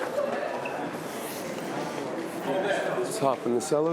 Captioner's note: crowd chattering